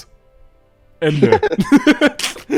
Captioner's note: laughter